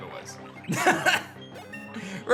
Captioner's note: laughs